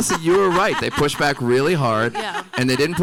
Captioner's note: everyone laughing